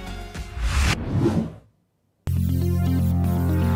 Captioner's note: whooshing sound; bright music